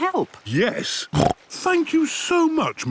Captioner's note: snorts